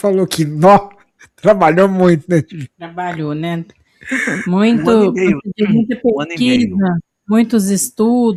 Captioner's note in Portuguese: limpando a garganta; risadas